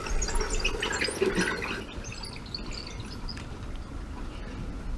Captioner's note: bicycle squeaking